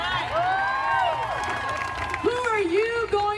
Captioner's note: crowd cheering and applauding